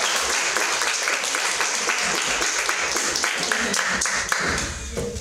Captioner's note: audience applause